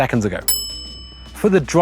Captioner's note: bell dings